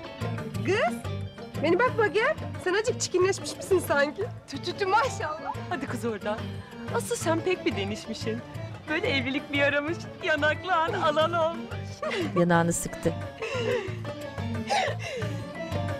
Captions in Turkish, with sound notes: Kız bana bak bakayım! Sen azıcık çirkinleş misin sanki? -Tü tü tü maşallah. -Hadi kız oradan! Asıl sen pek bir değişmişsin. Böyle evlilik bir yaramış. Yanakların al al olmuş. (Gülme sesleri)